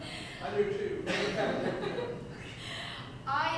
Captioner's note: audience chuckles